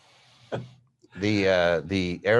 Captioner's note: laughing